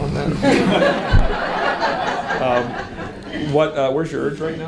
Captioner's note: audience laughs